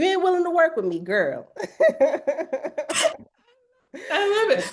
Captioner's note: laughs